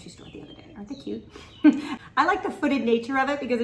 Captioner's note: chuckles